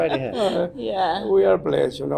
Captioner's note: laughing